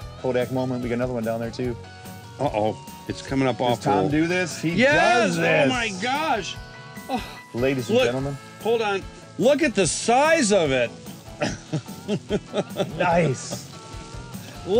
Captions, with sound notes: Kodak moment we got another one down there too. - Oh, it's coming up on. - It's time to do this. - Yes. - He does this. - Oh, my gosh. - Ladies and gentlemen. - Look, hold on, look at the size of it. (laughing) - Nice.